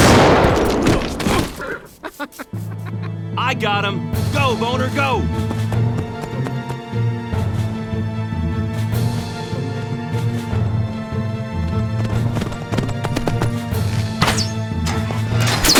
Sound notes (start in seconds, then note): 1.4 N00bly and Fart_Garfunkel grunt; 1.5 Gaylord_Steambath laughs